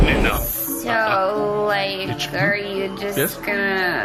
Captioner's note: abrupt snap to restaurant ambience